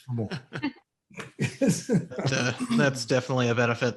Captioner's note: group laughs